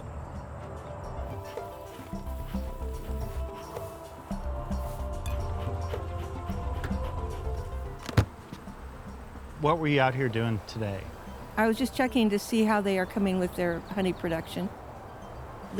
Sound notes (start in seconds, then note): 1.2 upbeat music; 8.0 lid snapping